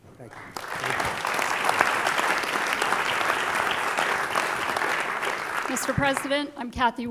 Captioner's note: applause